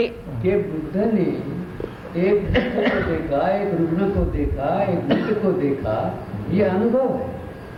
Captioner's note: discussion in Hindi